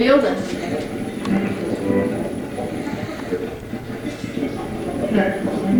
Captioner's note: radio channel changing